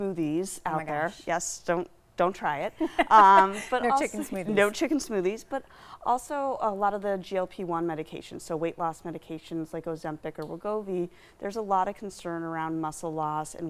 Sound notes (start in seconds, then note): 2.8 laughs